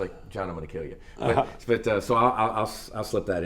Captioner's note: laughing